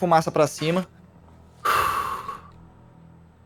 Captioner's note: exhale